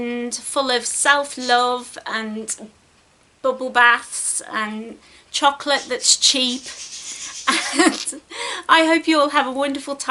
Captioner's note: giggles